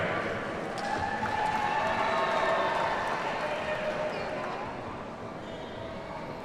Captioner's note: audience cheers and applauds